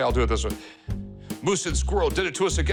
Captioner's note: dramatically